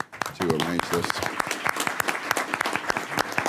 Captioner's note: applause